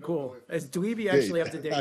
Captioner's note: laughter